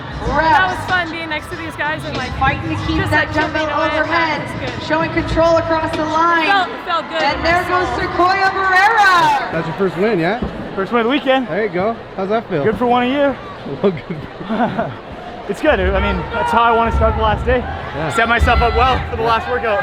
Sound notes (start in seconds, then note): 13.9 laughter